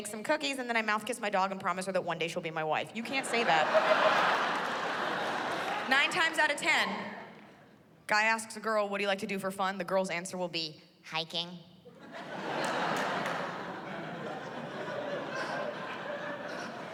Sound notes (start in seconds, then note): 11.9 laughter